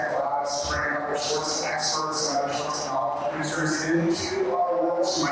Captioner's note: faintly speaking